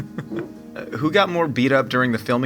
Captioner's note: laughing